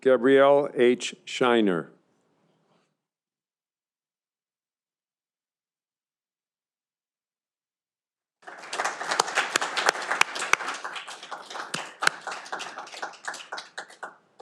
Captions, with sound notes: Gabrielle H. Sheiner. (audience applauding)